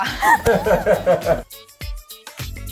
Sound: laughing; upbeat energetic music

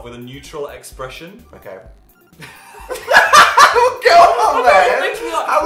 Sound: both laugh

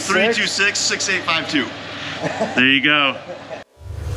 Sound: laughs; foreboding music

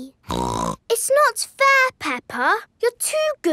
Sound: snorts

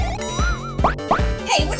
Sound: blink blink

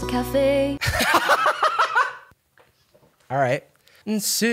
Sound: uncontrollable laughter

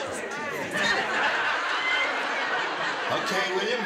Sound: laughter

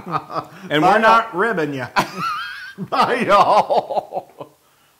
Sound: laugh

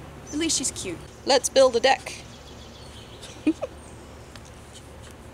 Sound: giggles

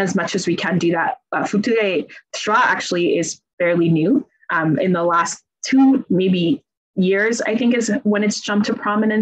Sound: speakis in Italian

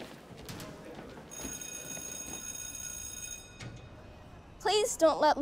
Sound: bell ringing

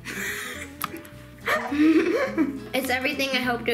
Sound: laughs

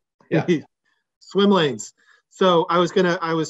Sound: laughs

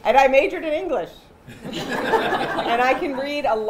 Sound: laughter

